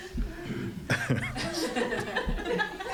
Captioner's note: audience laughs